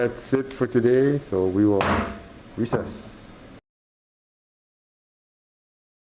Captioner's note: gavel bangs